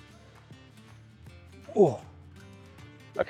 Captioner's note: old man noises